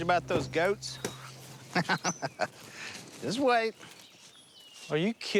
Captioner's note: laughs